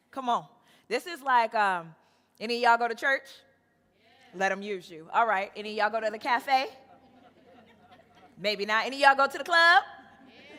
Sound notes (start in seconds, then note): 4.1 crowd; 6.9 crowd chuckling